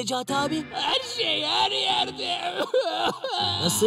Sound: crying

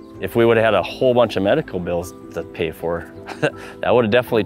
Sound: chuckling

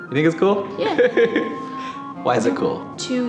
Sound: chuckling

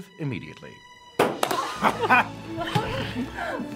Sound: all laughing; gentle music

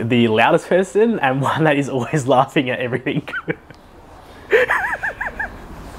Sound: giggling

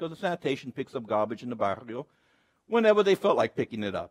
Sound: speaks Spanish

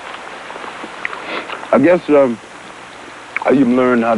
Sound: sniffs

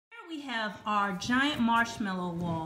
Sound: voiceover

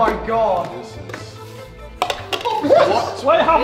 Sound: cup flipping

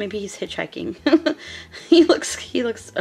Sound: laughing

